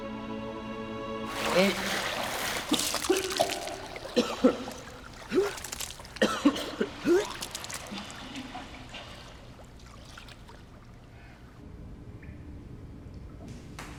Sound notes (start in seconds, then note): 3.9 gags